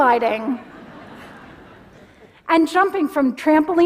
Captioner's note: laughter